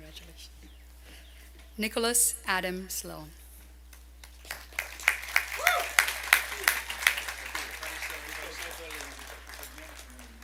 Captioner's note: applause